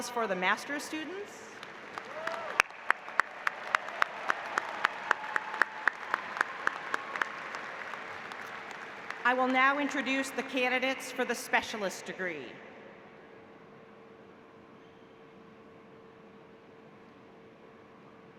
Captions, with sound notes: for the master students [APPLAUSE] I will now introduce the candidates for the specialist degree